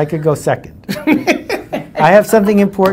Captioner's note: laughs